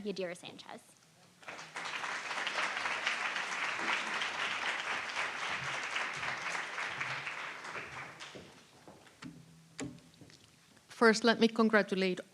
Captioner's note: applause